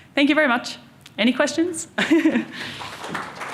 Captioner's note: chuckles; audience applauding